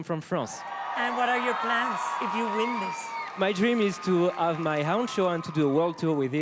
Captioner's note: cheering